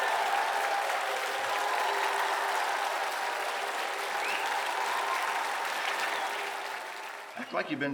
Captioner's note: cheers and applause